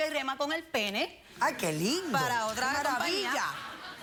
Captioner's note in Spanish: risas